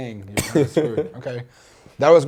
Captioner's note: laughs